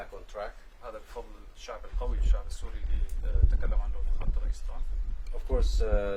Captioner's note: speaking Arabic